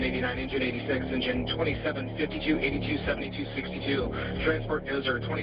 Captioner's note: radio